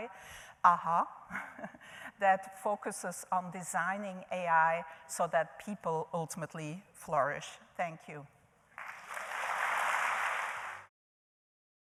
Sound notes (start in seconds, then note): 8.7 applause